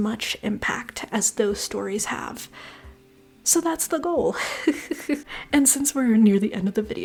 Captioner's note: laughter